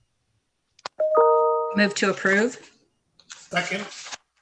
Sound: computer beeps

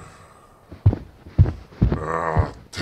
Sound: sigh; footsteps

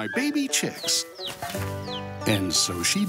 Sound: chicks peeping

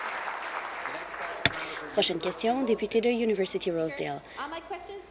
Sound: applause

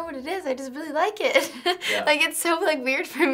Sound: chuckles

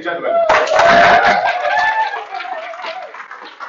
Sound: applause

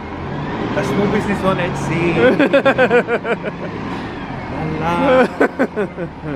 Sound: laughs

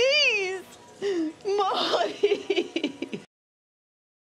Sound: cries

